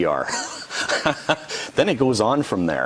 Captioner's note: laughing